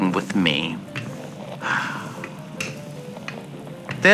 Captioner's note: sighs